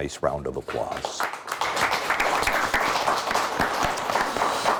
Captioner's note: audience clapping